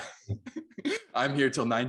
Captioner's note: laughs